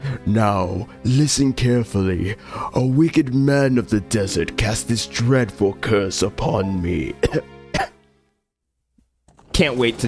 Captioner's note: coughs